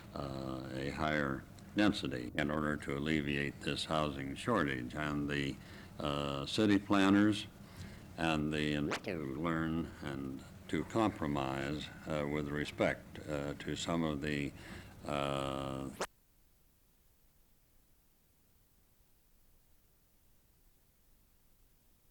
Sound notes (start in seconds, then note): 8.8 camera noise; 17.1 no audio